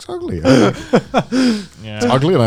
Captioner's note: hosts laughing